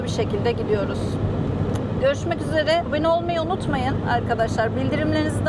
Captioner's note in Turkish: none